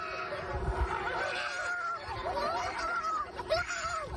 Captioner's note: roar; screaming